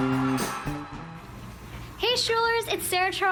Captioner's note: applause